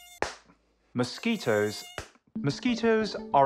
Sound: mosquito buzzing, smack

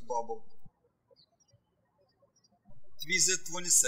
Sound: birds chirping

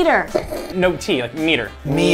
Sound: snorts

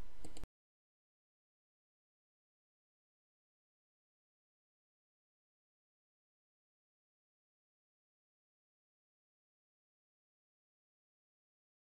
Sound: silence

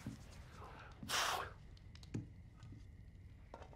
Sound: exhales sharply

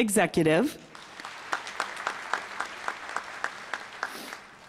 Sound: applause

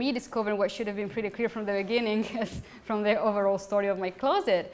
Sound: laughs

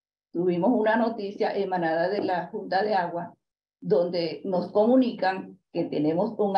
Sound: continues speaking in Spanish

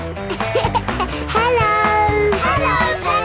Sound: laughing

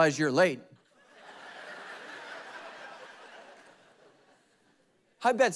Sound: congregation laughing

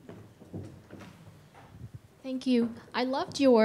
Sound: none

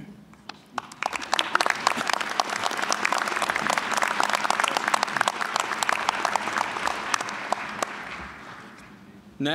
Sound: applause

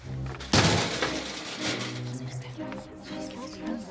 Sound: metal clanging

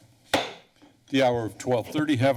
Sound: gavel tap

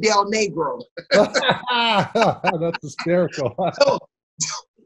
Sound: laughs

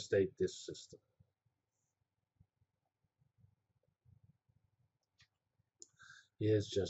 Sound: pause

